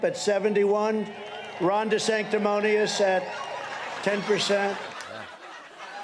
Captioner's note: laughter